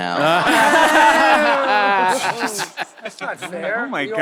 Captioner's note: members cheering and laughing